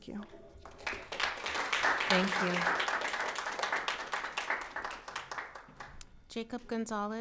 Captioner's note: audience applauds